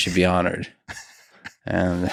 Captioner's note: Craig laughs